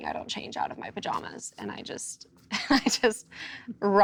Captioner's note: laughs